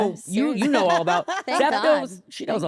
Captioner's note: laughs